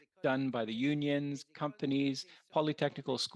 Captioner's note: speaking French